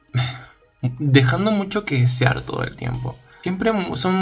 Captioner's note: sigh